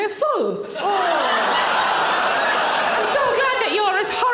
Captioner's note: audience laughing